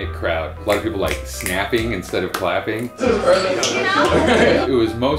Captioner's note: snaps